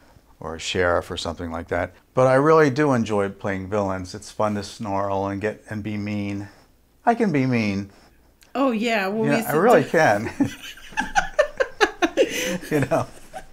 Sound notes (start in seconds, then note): 10.2 laughing